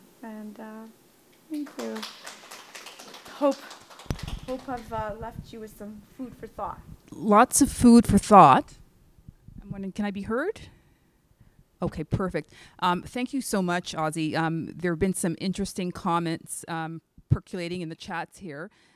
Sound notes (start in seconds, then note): 1.5 attendees applauding